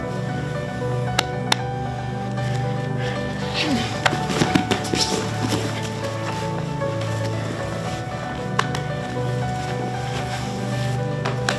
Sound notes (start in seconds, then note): 3.5 both men thudding; 3.5 breathes heavily